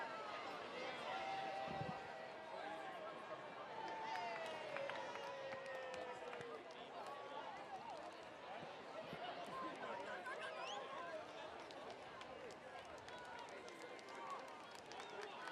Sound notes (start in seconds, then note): 4.5 chatter